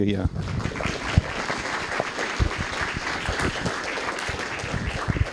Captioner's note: applause